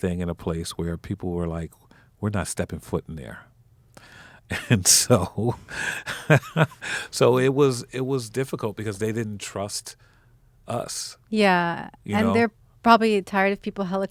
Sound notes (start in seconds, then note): 4.5 laughing